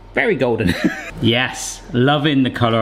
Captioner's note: laughs